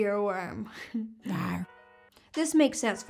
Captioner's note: laughing